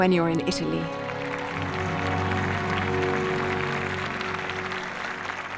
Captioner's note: audience applause